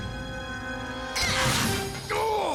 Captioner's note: leaping grunt